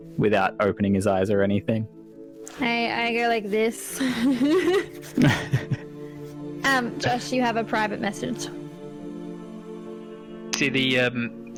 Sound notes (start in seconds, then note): 3.8 giggles; 4.0 laughs